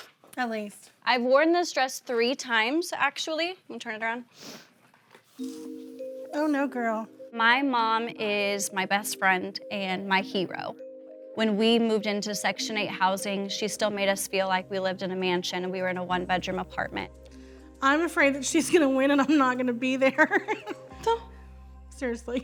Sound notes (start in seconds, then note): 20.1 chuckles